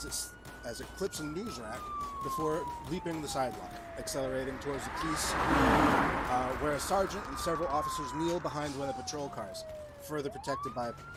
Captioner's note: siren effect; car effect